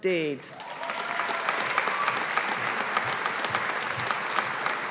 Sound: audience applauding

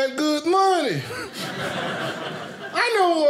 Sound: audience laughing

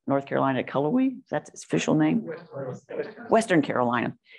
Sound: off mic

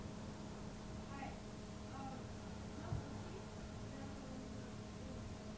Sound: people murmuring

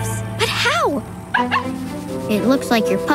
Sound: barking

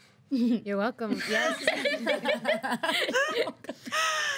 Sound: girls laughing

